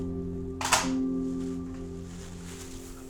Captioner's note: phone thuds; somber music